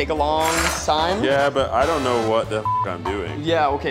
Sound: beep

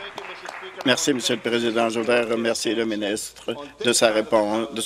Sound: applause

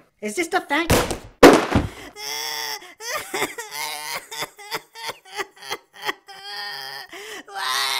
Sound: crying

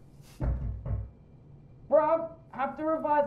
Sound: knocking

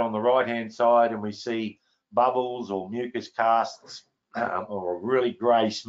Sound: clears throat

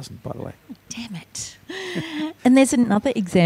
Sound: chuckles

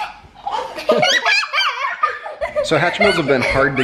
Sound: laughter

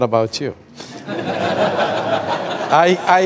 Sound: laughter

